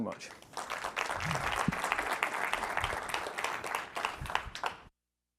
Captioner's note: applause